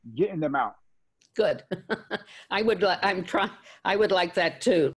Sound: laughs

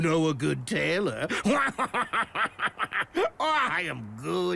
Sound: chuckles

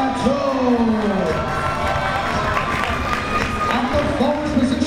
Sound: crowd members cheering

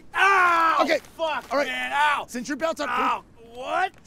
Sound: screaming

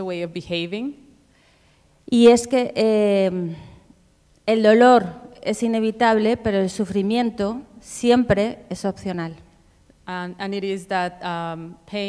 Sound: speaking Spanish

